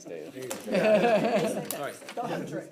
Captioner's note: laughter